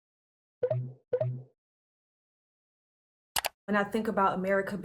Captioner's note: buttons blipping